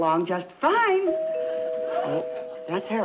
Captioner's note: doorbell ringing